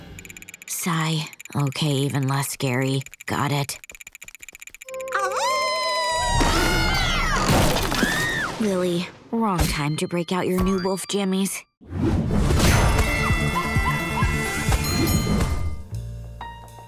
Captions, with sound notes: Sigh. Okay, even less scary. Got it. [howling] [screaming] Lily, wrong time to break out your new wolf jammies. [music playing, screaming] [dinging]